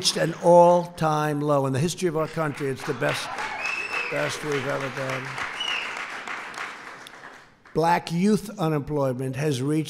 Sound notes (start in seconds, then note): 0.0 applause; 2.2 applause